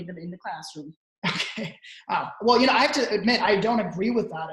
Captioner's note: laughing